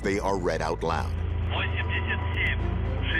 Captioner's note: speaking russian